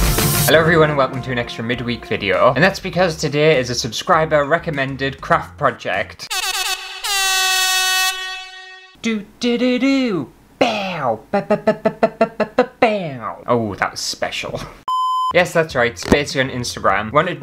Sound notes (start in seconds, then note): 6.3 air Horn!!